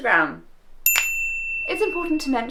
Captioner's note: ding